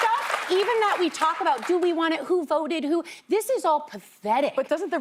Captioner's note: applause